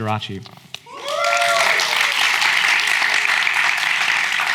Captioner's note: audience applauds